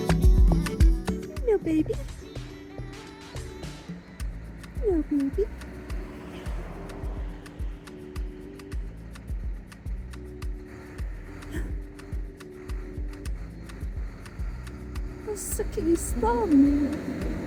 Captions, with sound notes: - Hello, baby. - Hello, baby. [gasp] - He's sucking his thumb!